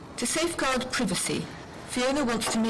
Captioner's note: voiceover